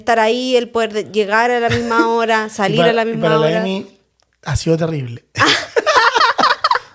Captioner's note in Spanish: risas